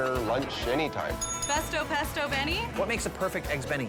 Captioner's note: bell dings